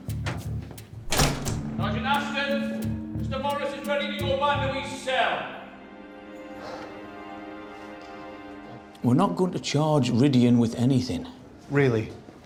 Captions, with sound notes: -[door slams] -[Bolton shouting] Sergeant Ashford? Mr Morris is ready to go back in his cell. We're not going to charge Rhydian with anything.